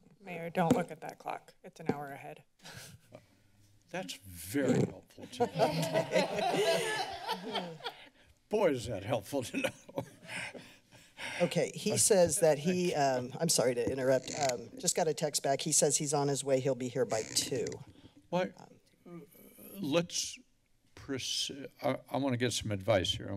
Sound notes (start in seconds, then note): 5.3 laughs